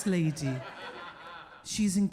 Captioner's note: audience laughing